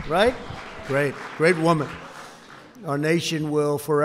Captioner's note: applause